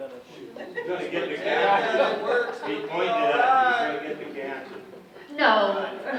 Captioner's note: audience chatting indistinctly